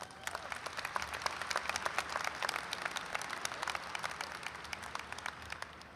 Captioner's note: audience applauds and cheers